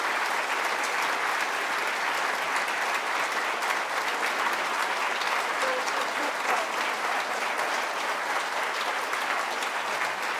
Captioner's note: applause